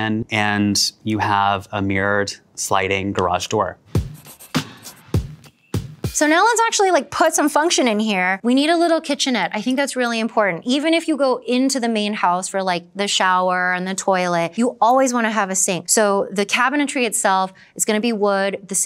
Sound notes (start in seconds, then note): 3.9 lo-fi music; 4.0 pencil writing